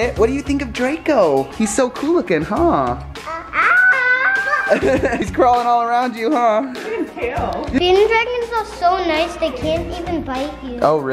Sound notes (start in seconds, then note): 3.1 squealing; 3.2 babbling; 5.1 laughing